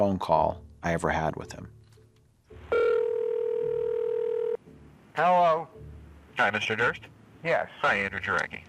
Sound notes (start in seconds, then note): 2.7 dial tone